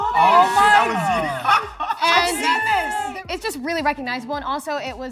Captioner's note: excited chatter